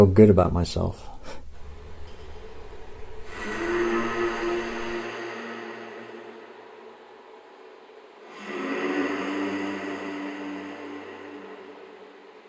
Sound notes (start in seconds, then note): 1.1 chuckle; 3.4 humming sound